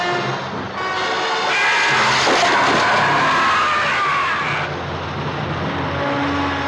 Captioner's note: suspenseful music; creature screaming